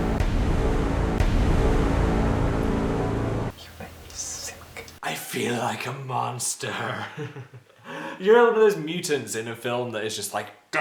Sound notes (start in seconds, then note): 3.5 whispering; 6.7 quiet laugh